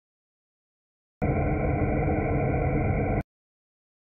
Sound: sound of spaceship drone

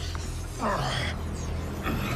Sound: groans

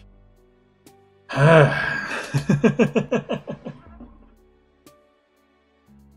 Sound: laughs

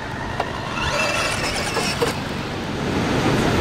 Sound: car squeals

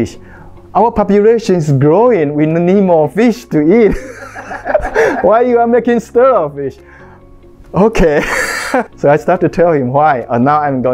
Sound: laughing

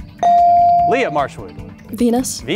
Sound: beep

